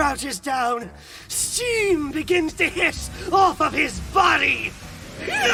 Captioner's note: steam begins to hiss off of his body!